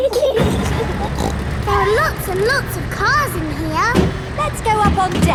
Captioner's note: giggling; snorts